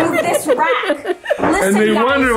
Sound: laughing

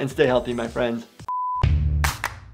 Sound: beep sound; upbeat music

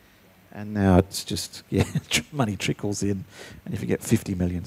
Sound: chuckling

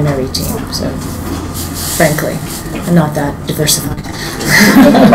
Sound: laughing

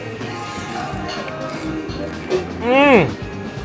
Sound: broth slurping

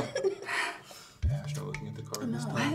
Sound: giggling; sighing

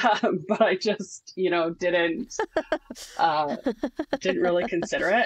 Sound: laughs

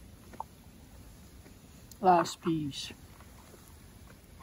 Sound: with a dramatic voice

